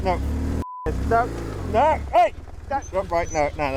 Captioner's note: beep